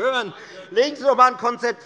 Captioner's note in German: Zurufe CDU